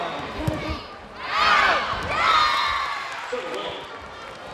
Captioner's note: players yelling